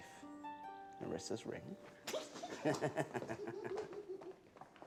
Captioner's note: giggling